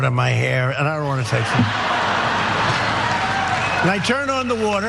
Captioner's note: laugh